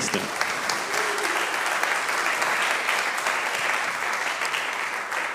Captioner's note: congregation applauding